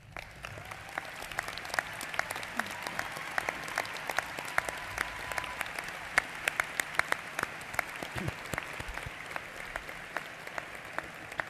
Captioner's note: applause